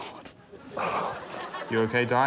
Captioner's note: sighs